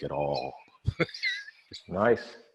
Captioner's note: laughing